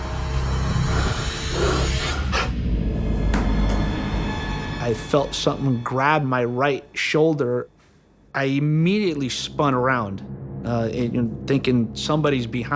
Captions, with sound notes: (gasping) I felt something grab my right shoulder. I immediately spun around, thinking somebody's behind me.